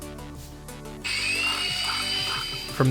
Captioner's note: tool whirring